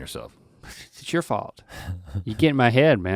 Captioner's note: Rhett chuckling